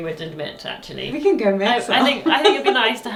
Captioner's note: laughs